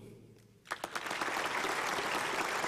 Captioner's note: applause